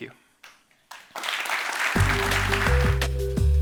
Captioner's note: applause